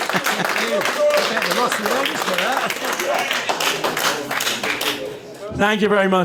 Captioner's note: applause